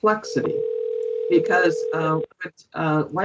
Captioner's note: dial ring